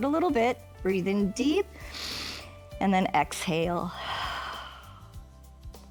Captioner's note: exhales